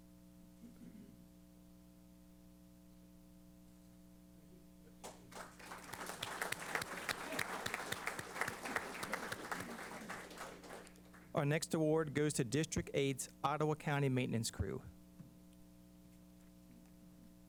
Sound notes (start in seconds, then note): 5.0 applause